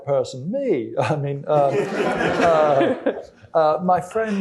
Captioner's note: laughter